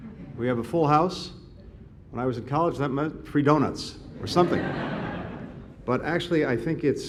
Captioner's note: laughter